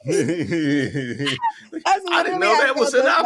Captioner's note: laughter